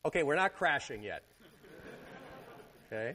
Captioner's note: laughter